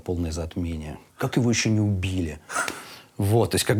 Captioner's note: Dud laughs